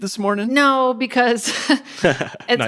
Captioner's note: laughs